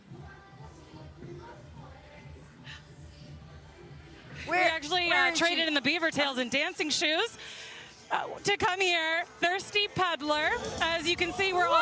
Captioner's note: laughter